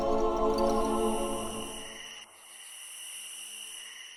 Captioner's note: crickets chirp